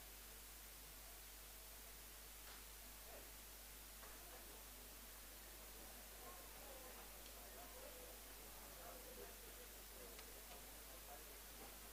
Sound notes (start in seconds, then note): 2.7 background chatter